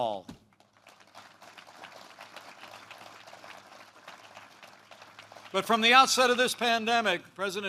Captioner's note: applause